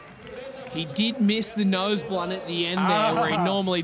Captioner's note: crowd cheering